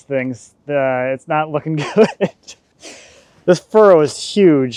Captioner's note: chuckles